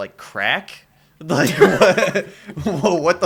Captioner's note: laughter